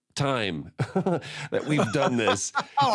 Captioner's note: laughs